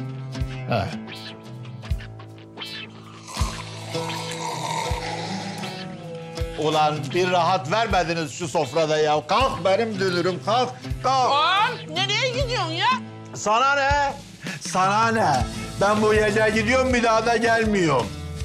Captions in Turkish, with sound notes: (höpürdetiyorlar) Ulan bir rahat vermediniz sofrada! Kalk, benim dünürüm. Kalk. Ağa'm! Nereye gidiyorsun? Sanane! Sanane! Ben bu gece gidiyorum Bir daha da gelmiyorum.